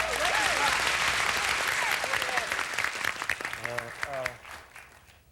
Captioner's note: audience applauding